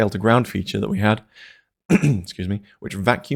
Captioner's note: ahem